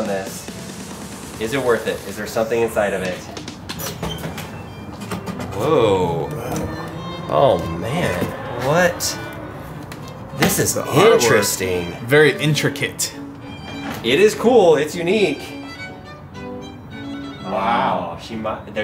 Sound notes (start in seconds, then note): 3.7 trunk opening; 5.1 soft music